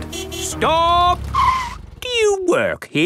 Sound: tires screeching

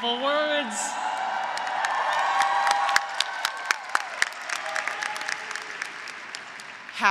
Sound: graduates cheering; graduates applauding

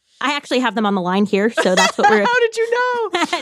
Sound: laughs

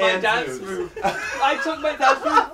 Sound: laughter

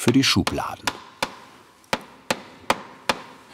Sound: Klopfen

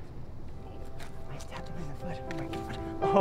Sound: whispering

